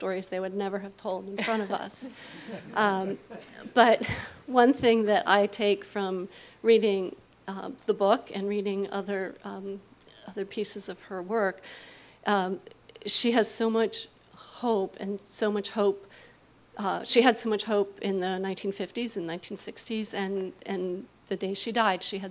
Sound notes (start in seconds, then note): 2.0 audience laughs